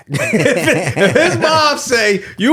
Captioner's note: laughing